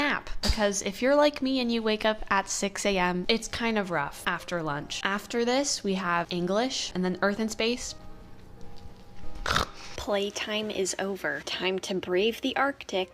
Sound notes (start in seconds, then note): 9.4 chomp